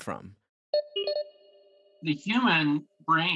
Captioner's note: alert chiming